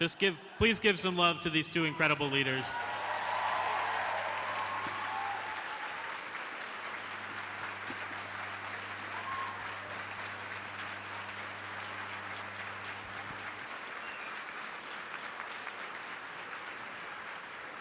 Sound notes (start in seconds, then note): 2.2 applause